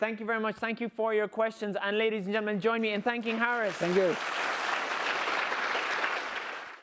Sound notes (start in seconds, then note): 5.0 applause